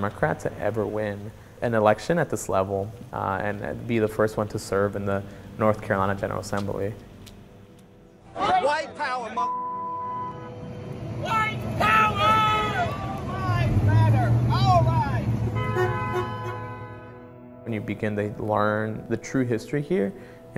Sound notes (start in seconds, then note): 11.0 yelling; 15.1 honking